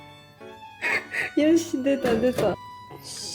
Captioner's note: laughs